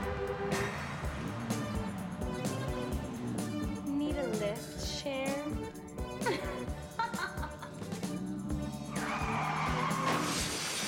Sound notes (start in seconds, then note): 6.0 laughing; 8.6 tires screeching and crashing